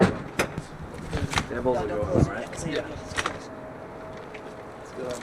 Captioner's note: light chattering